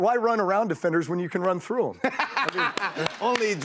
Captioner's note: laughter